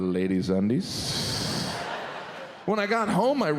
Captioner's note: audience laughs